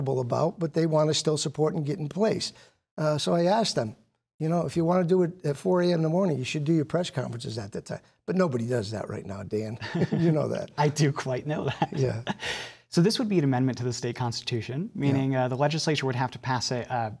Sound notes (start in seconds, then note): 9.8 laughing